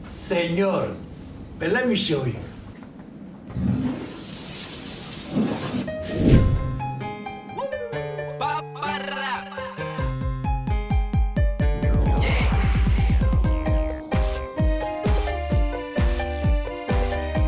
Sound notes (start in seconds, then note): 3.6 whooshing chalk sound